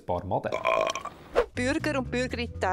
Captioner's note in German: Rülpser